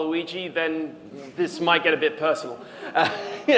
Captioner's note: laughs